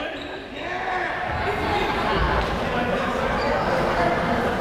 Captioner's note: crowd chatter